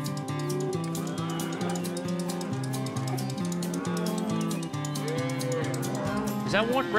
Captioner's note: cows moo